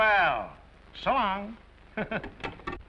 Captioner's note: chuckles